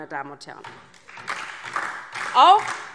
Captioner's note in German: Beifall DIE LINKE und vereinzelt SPD